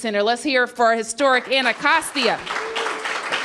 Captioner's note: applause